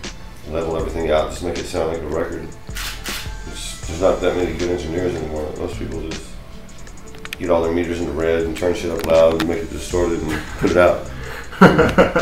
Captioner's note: laughter